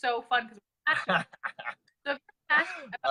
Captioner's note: laughs